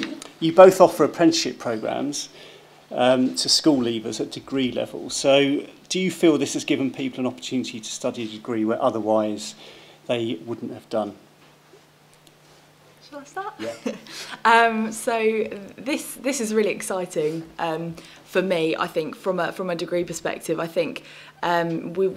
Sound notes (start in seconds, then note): 13.6 chuckles